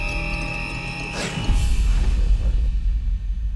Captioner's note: gasps